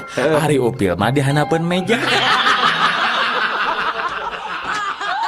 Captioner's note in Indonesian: tertawa